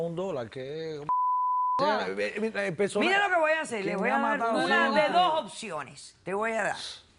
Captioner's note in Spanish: Bip